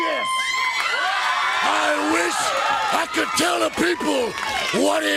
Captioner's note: crowd cheering